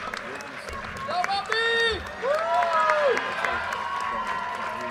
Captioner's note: cheers